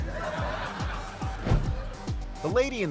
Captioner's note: audience laughing